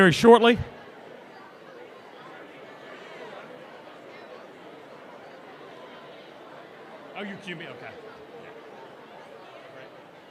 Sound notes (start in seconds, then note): 0.0 group talking